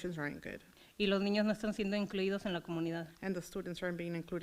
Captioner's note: foreign language